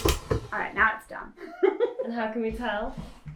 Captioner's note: laughs